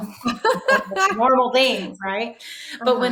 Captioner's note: laughing